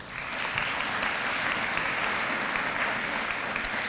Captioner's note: applause